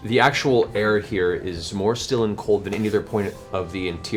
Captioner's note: none